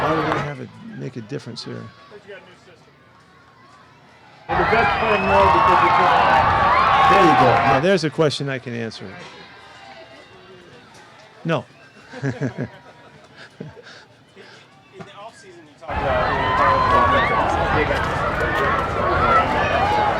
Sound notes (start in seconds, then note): 12.4 man chuckles